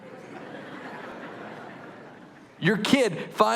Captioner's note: laughter